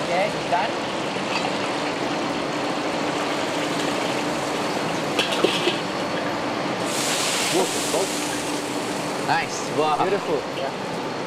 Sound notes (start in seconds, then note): 4.2 sound of oven fan running